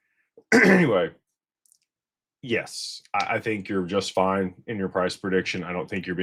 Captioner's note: clears throat